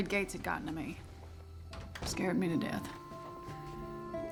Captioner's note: door closes